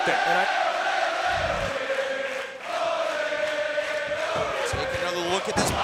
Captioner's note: crowd chants "Ole, ole ole ole"